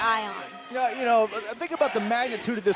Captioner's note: bell ringing